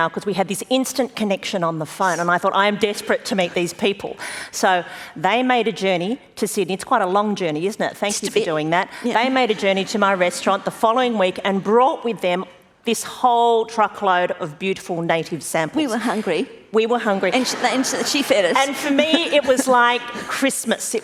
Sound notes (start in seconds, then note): 17.3 laughter